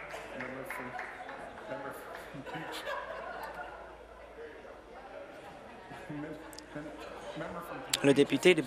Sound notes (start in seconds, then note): 2.3 applause; 6.3 chuckles